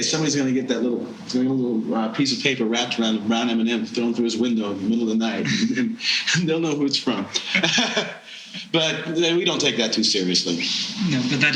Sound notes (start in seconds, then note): 7.3 laughing